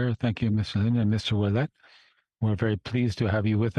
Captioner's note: speaking French